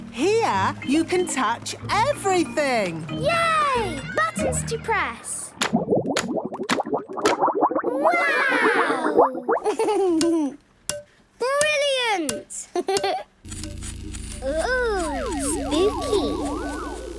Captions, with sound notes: Here, you can touch everything! - Yay! Buttons to press! - (bubbling) - Wow! - Click, clack! - Brilliant! Hee, hee! - (pulsing) - Oooh! Spooky!